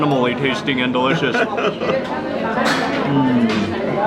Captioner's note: chuckles